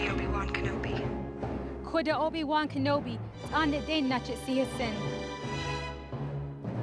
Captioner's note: speaking Navajo